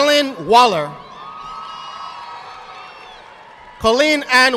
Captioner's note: audience applauding